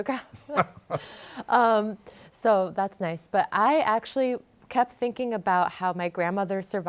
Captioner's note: laughs